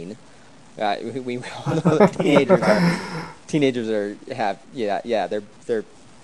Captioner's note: laughs